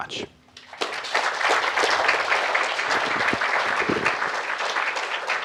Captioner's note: applause